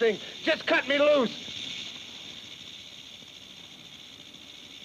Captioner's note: snake rattles